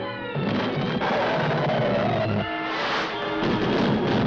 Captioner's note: guns banging; tires screeching; debris rumbling